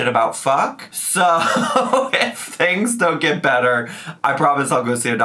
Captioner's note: laughing